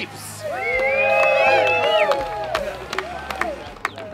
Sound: cheering

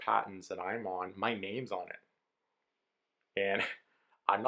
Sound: laughs

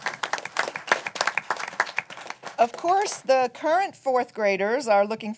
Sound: applause

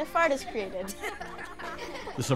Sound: giggle

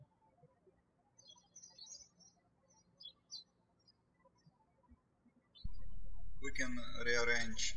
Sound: birds chirping

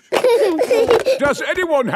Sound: giggling

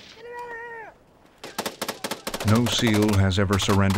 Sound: shouting; voiceover

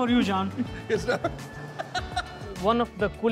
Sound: laughs

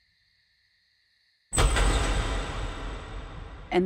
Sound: door opens

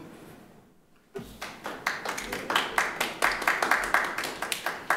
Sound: members clapping

